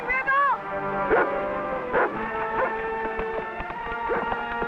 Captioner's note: Rebel barking